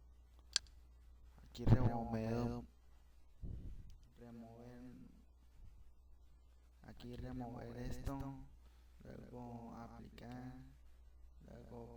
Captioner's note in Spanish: Respiración